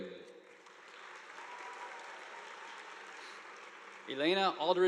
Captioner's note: audience applauding